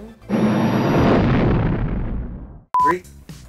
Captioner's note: engine roars